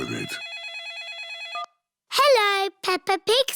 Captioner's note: phone rings